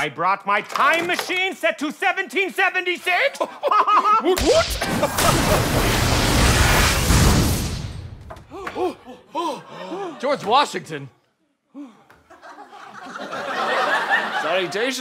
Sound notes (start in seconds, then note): 3.3 laughing; 5.2 machine hissing